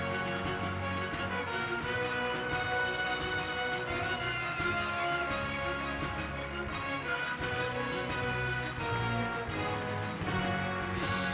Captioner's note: applause